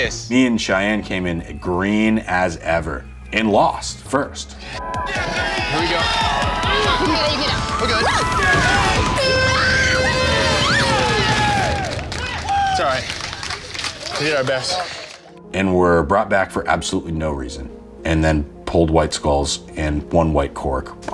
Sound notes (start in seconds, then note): 5.2 crowd cheering; 9.1 buzzer rings; 12.3 crowd cheering